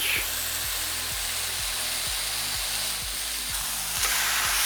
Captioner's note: sizzling sound